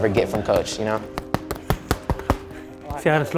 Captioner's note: mitts boxing